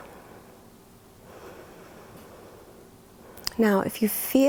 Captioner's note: inhales; exhales